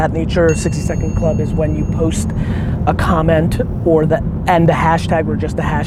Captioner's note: bell dings